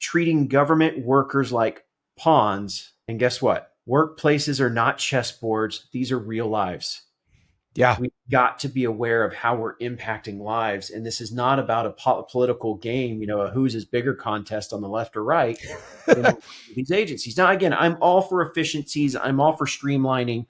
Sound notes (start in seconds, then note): 15.6 laughs